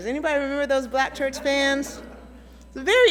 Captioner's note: audience laughing